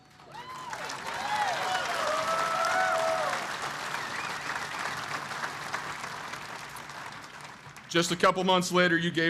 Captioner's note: applause